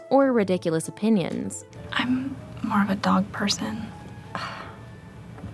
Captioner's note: scoffs